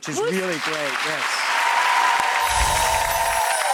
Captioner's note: audience applauds; angelic music